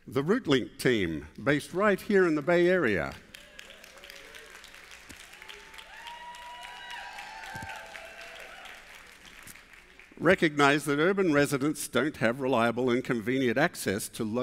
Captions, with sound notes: The RootLink Team, based right here in the Bay Area [APPLAUSE] recognized that urban residents don't have reliable and convenient access to